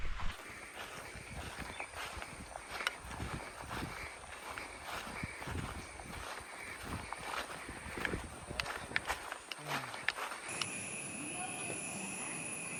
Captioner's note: animal sounds